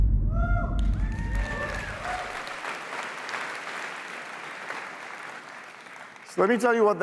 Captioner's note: applause